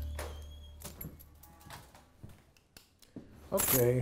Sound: door creaking open

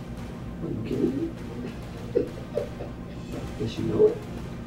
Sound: laughing

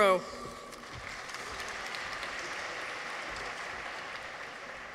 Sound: audience applauds

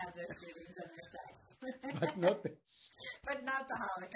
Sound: laughing

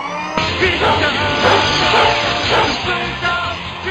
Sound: barking

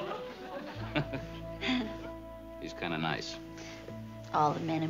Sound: chuckles

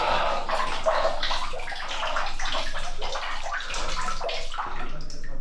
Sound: water running

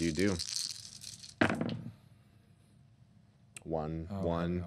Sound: dice rattling

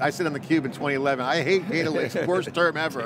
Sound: laughing

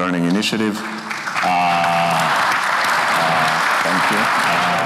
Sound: everyone applauding

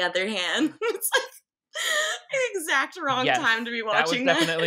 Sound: laughs

